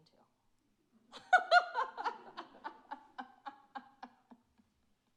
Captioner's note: laughs